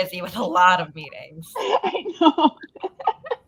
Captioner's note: laughing